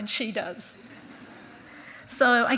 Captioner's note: audience chuckling